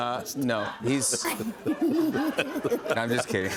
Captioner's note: laughter